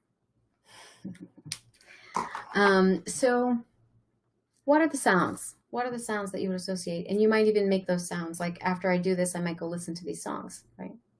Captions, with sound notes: (chuckles) So what are the sounds? What are the sounds that you would associate? And you might even make those sounds like after I do this, I might go listen to these songs.